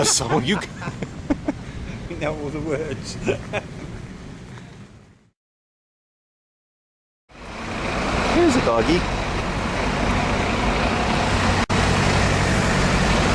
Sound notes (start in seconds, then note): 0.0 laughing; 0.0 both Laughing; 3.3 laughing; 7.3 loud Traffic Noise